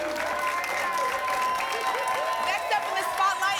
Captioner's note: applause and cheering